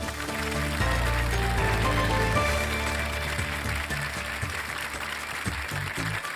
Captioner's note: applause